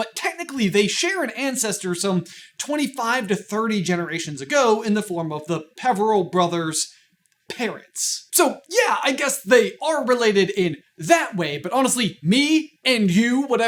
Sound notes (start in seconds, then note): none